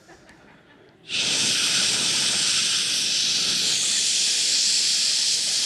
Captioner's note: imitating urinating